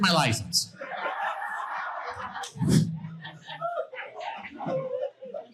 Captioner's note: audience laughing